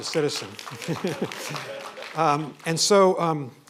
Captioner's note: applause